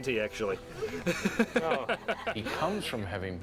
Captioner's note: laughing